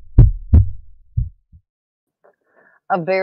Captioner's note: heart beating